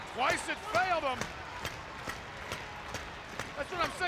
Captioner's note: crowd foot stomping